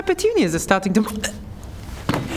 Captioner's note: eek